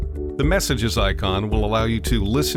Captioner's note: voiceover